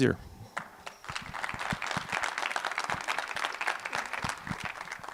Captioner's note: applause